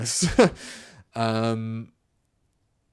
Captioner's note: laughs